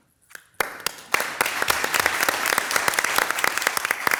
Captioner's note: audience applauds